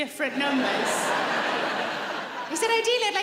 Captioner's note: laughing